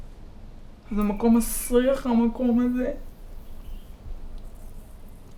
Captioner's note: speaking in foreign language